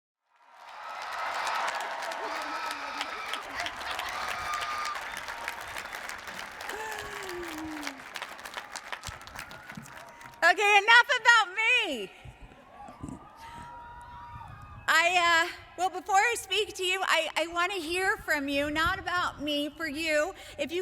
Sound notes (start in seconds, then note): 0.2 applauding; 0.4 audience cheering